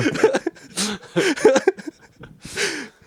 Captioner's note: laughing